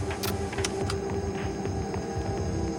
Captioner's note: gentle tense music; button clicks